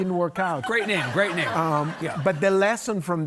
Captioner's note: audience laughing